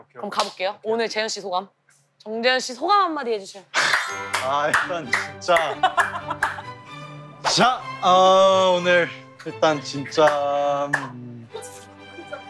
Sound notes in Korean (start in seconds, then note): 6.3 짝짝짝